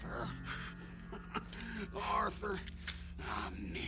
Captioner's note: laughs